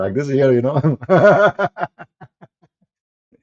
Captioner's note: Ketawa